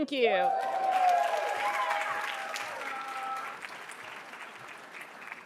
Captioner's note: attendees cheering and applauding